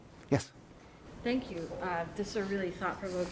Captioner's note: voiceover